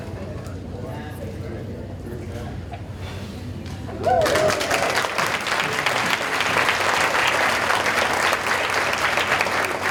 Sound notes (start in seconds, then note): 4.0 audience cheering and applauding